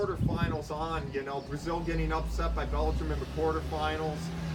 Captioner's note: vehicle accelerating; birds singing